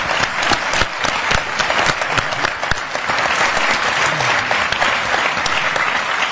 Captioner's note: applause